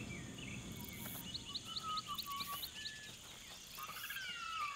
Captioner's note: birds tweeting